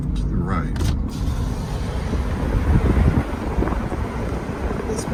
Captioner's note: air whooshing